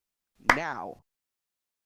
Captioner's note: clap